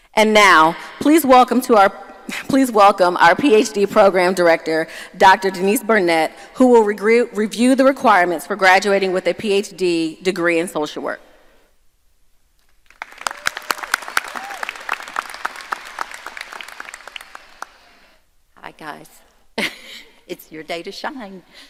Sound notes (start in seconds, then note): 12.8 audience applauding; 19.9 laughs